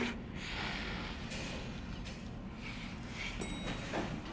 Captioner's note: lips smooching; elevator dings